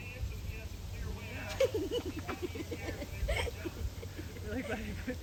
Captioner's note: bystander chuckling